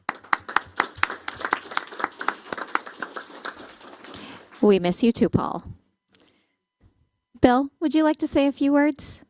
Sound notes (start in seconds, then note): 0.0 applause